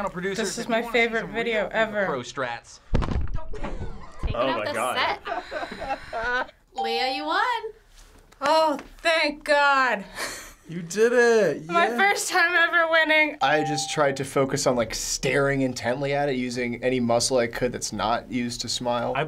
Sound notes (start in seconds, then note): 9.7 chuckles